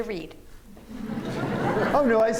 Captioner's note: laughter